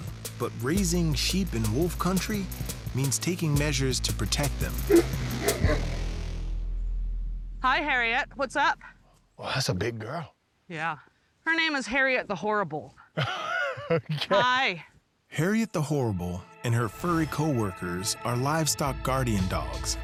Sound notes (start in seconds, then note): 5.4 barking